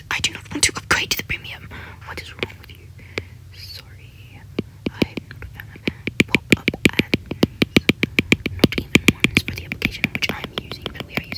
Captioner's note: tapping; ranting